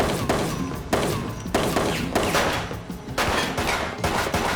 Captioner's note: gunfire